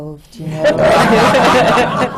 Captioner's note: laughter